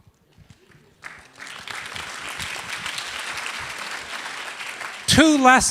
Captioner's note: applause